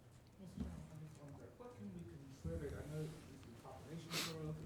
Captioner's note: talking off microphone